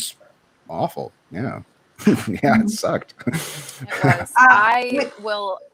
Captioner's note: laughs